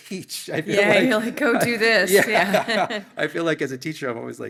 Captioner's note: laughs